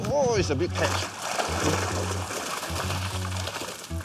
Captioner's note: splashing